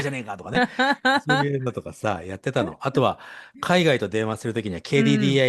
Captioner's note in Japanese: 笑い